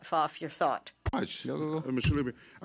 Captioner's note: speaking French